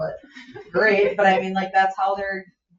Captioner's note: members laugh